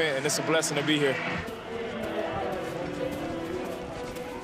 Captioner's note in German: Stimmengewirr, eindringliche Klänge